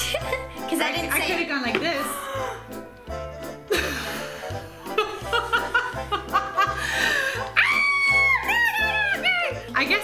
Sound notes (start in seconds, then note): 0.3 giggles; 2.0 gasps; 4.9 laughs; 7.5 screams